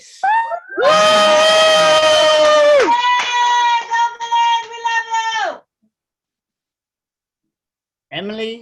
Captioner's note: cheering